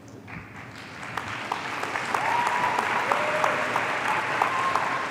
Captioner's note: audience applauding